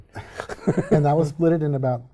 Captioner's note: laughing